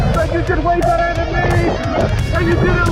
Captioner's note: both laugh